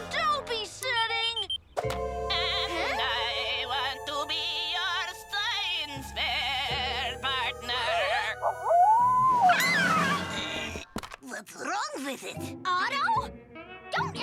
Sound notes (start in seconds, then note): 1.3 device beeping; 6.0 spooky voice; 8.4 wolf howling; 8.7 Tabitha screams